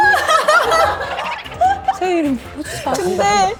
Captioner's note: laughs